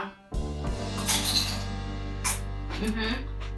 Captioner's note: crunch